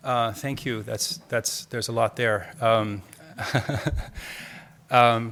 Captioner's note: laughs